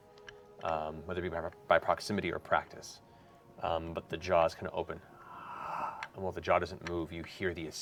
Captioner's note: gasping